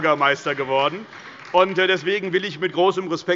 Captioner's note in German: Heiterkeit und Beifall bei der SPD